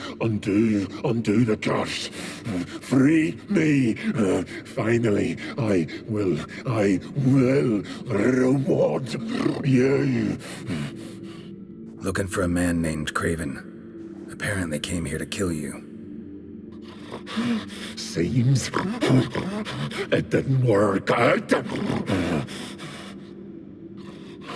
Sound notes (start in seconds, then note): 10.4 panting; 17.0 wheezing laugh; 24.0 panting